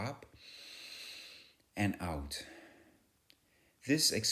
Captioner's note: speaker exhales out